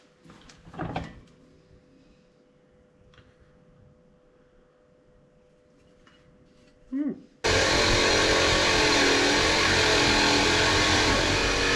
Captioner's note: drilling